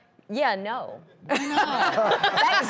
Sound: laughs

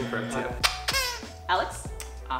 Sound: squeaks

